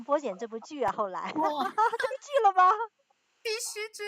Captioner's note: laughs